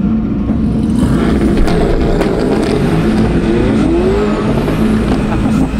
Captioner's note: C8 revs loudly and sputters